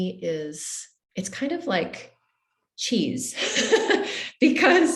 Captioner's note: laughs